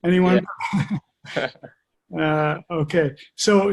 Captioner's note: laughing